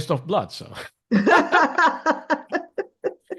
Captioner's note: laughs